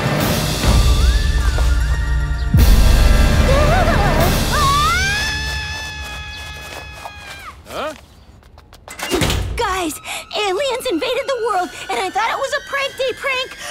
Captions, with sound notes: -What? -[screams] Huh? Guys, aliens invaded the world and I thought it was a Prank Day prank,